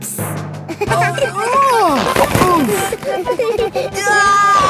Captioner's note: giggling; grunting; giggling